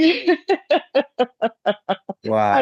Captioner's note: laughs